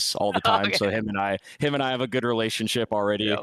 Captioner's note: laughs